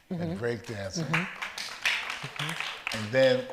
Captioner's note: audience applauds